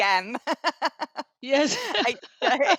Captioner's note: laughter